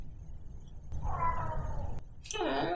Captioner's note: meow